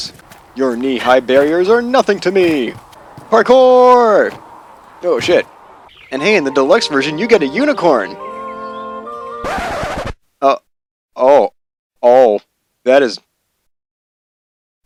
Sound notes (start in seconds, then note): 9.4 record scratch